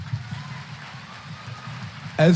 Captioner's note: applause